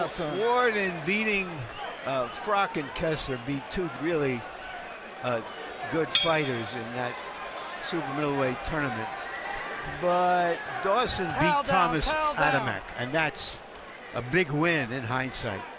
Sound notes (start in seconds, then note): 6.1 bell dings